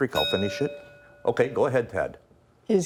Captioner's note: bell ringing